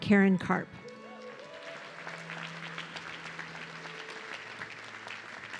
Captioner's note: audience clapping